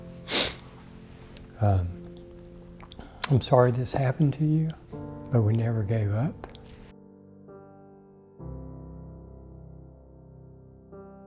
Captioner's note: sniffing